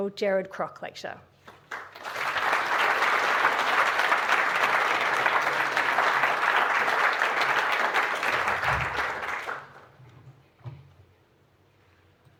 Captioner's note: applause